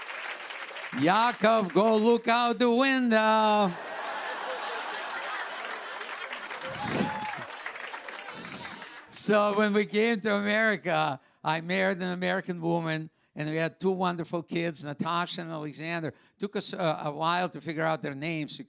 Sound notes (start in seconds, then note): 0.0 cheers and applause; 3.7 laughter